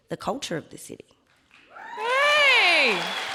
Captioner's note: audience cheering and applauding